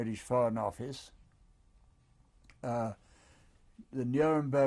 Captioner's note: pauses for 3 seconds